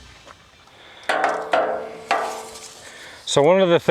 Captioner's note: metals clanking